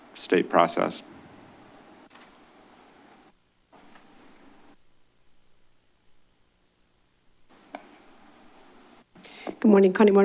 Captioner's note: silence